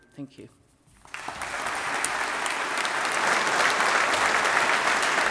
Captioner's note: audience applauding